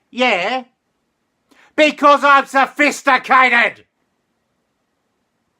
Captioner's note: yelling